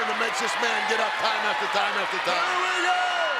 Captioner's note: audience cheers